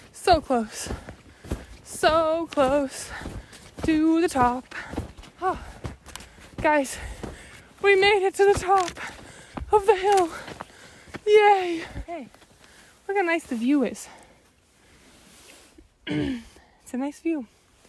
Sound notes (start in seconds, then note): 5.6 panting